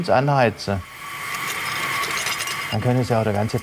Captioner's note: hissing